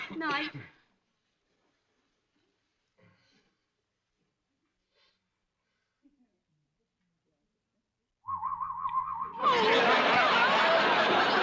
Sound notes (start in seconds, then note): 8.2 weird whistling